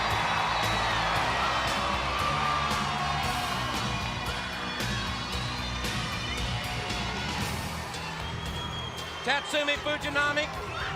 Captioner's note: crowd cheering